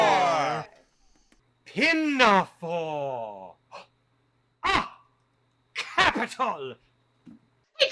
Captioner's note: gasp